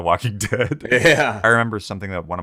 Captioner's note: both laughing